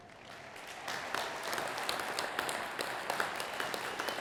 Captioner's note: attendees clapping